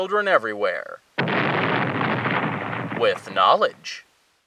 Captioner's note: explosion